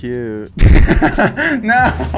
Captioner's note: laughs